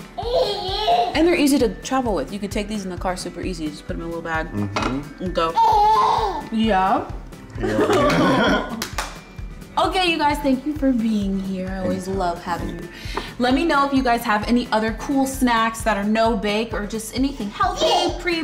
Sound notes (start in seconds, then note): 0.1 baby gurgles; 5.6 baby gurgles; 7.6 laughter